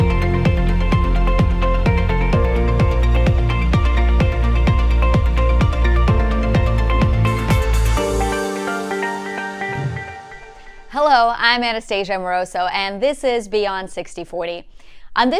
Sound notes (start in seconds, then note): 6.9 upbeat music continues; 9.9 air whooshes